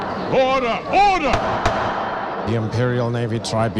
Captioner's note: gavel banging